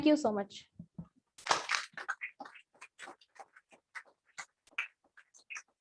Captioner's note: applause